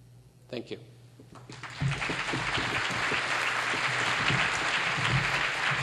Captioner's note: applause